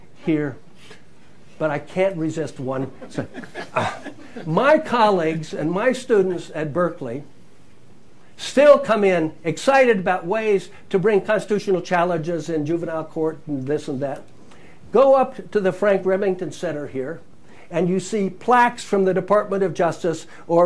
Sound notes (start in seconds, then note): 2.7 laughter